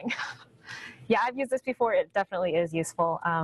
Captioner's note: chuckles